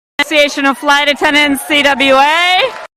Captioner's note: applause